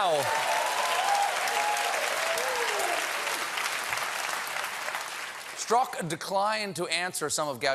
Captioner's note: cheers and applause